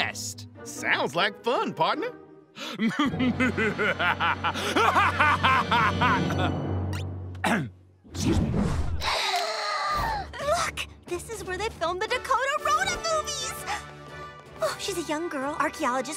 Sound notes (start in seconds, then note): 2.8 laughing maniacally; 7.4 clears throat; 8.9 gasps